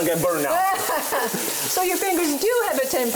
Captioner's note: chef laughing